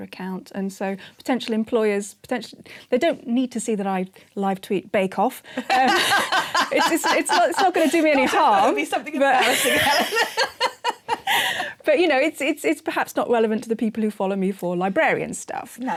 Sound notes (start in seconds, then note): 5.7 laughing; 11.0 laughter